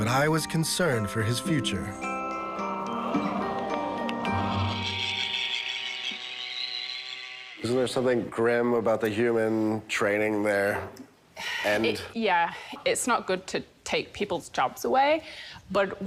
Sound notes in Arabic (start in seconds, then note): 5.3 صوت طنين ميكانيكي